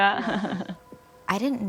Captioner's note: laughs